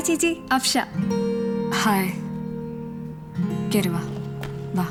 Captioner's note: quietly